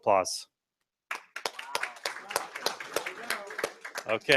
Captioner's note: applause